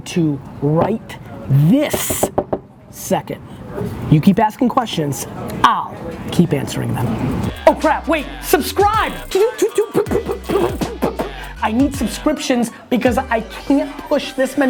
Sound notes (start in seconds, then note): 9.5 makes video game sounds